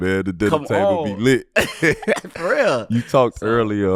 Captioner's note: laughing